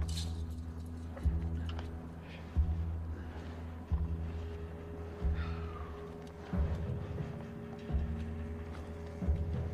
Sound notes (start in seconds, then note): 5.3 exhales